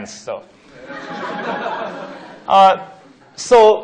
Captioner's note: laughing